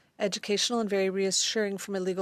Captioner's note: speaking French